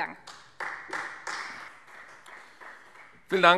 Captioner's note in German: Beifall Freie Demokraten